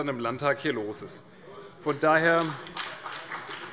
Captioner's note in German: Beifall CDU und BÜNDNIS 90/DIE GRÜNEN